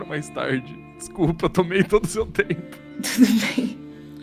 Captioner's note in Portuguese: risada